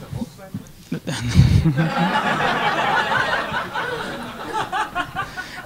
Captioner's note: audience laughing